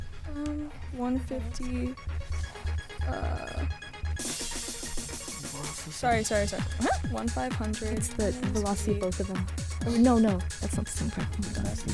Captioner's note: whispering